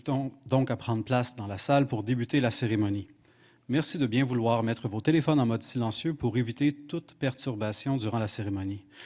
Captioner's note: speaking French